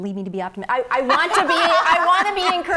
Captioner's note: laughs